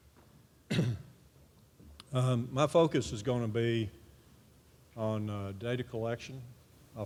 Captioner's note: cough